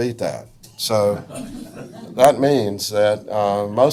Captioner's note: audience laughs